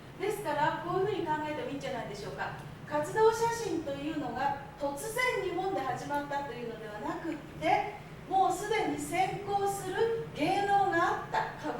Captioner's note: speaking Japanes